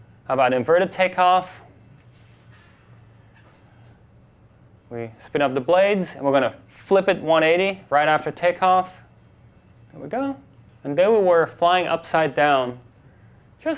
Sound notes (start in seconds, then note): none